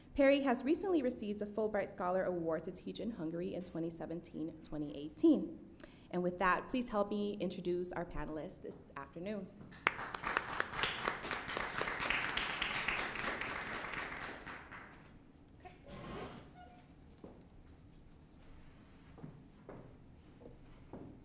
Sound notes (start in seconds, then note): 9.7 applause